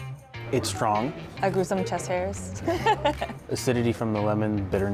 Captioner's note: laughter